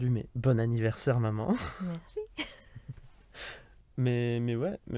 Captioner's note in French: Rires